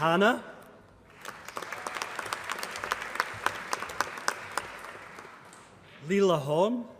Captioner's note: applause